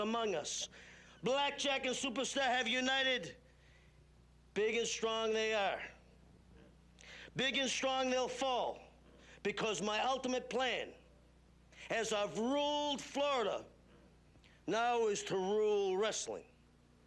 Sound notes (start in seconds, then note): none